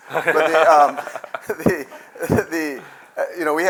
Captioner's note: laughter